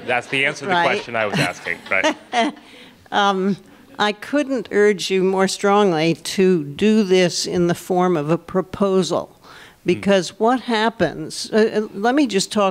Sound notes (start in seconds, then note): 2.0 laughter